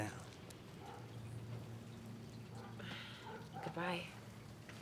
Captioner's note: dog barking